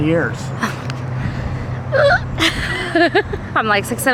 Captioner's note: laughs nervously